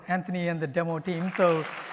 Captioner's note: applause